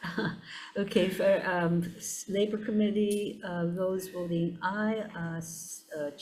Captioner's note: chuckles